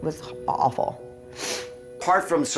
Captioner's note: sniffle